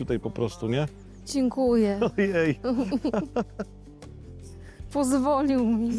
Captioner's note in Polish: śmiech